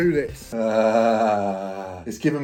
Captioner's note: groaning